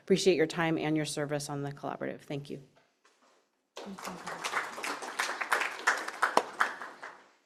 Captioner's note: applause